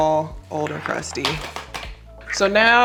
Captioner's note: primers clacking